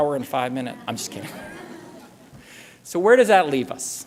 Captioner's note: laughter